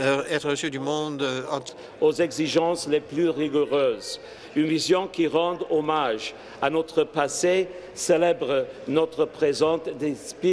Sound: speaking French

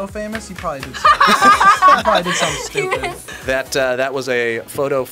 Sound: laughs

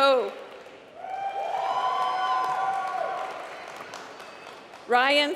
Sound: applause

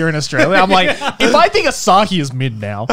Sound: laughing

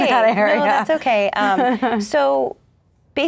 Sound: laughs

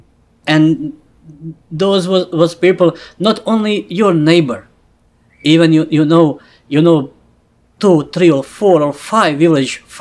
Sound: laughs

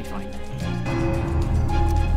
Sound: ding

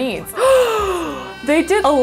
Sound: gasps

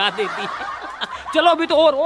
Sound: laughing

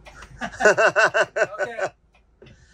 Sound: laugh

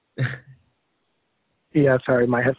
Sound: laughs

